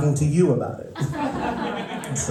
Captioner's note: laughter